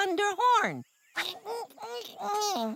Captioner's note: grunts of effort